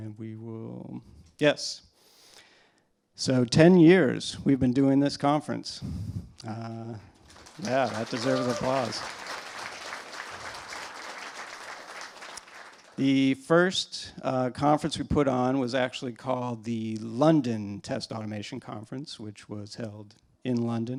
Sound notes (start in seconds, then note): 7.2 applause; 10.5 cheers and applause